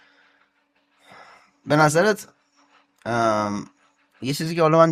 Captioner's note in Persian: صدای خرناس